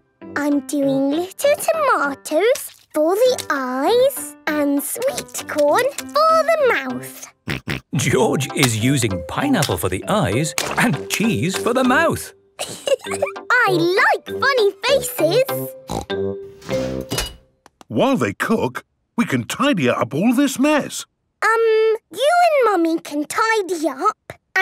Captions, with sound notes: - I'm doing little tomatoes for the eyes and sweet corn for the mouth! - Grunt! Grunt! - George is using pineapple for the eyes and cheese for the mouth! - Hee, hee! I like funny faces! Snort! - (beeps) - While they cook, we can tidy up all this mess. - Um. You and Mummy can tidy up,